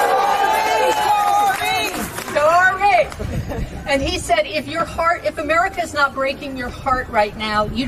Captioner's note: cheering and applause